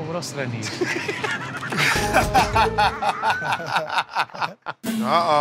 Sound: laughter

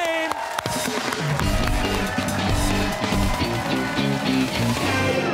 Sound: cheers and applause

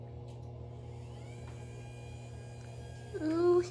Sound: whirs

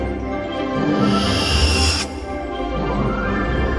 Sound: whooshing

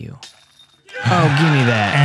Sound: cheering

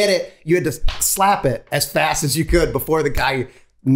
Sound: Rob claps

